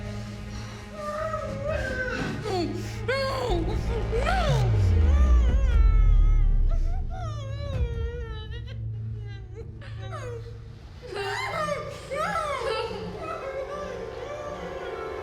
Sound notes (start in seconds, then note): 2.2 Ema groaning; 7.7 dramatic music